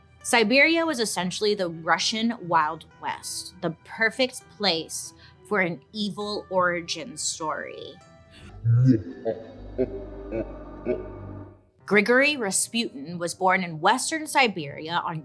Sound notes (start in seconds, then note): 8.3 tense music; 8.7 evilly laughing